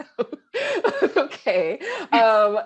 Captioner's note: laughing